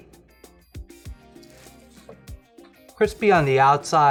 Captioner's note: crunching